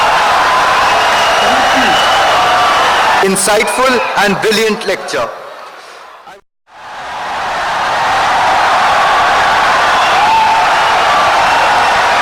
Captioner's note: wild applause and cheering for 17 seconds